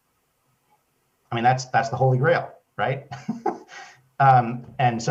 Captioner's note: laughs